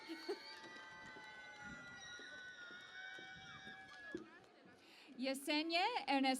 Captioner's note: cheering and Applause